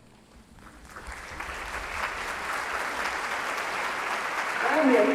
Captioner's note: audience clapping